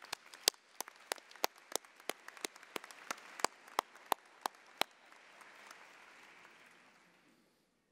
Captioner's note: applause